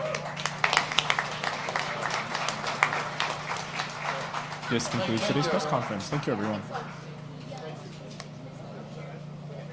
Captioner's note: applause